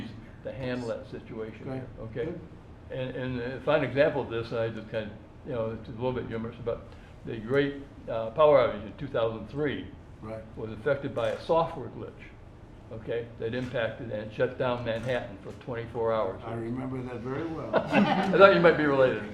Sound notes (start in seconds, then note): 14.3 laughter